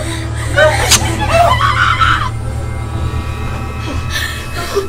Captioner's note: screaming